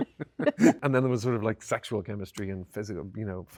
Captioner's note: both laughing